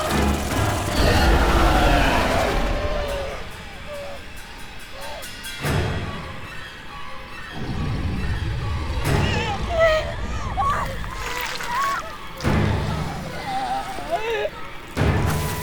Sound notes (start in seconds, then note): 0.0 creature growling; 0.9 Steph whimpering; 5.5 dramatic orchestral music; 10.9 Steph groaning loudly; 10.9 flesh squelching